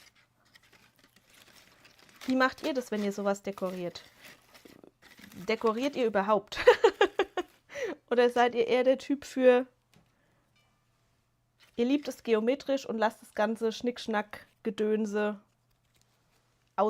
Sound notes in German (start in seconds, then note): 6.5 gelächter